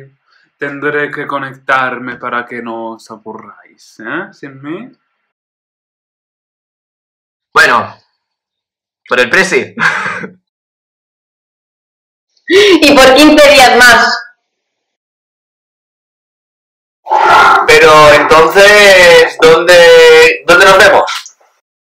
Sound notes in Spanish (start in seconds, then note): 9.8 ríe